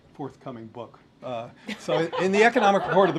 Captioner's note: laughter